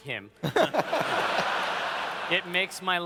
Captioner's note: laughter